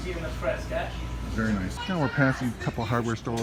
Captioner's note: people yell